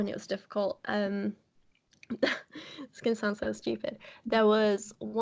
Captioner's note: laughs